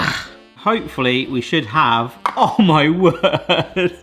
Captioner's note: laughs